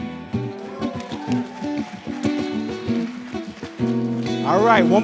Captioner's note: applause